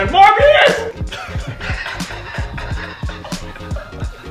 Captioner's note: laughing